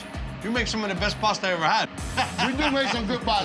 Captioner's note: Buddy laughing